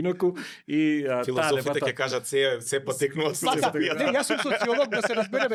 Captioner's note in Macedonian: смеа